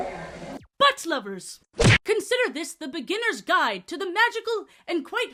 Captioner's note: butt smack sfx